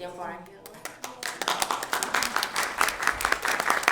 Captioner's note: applause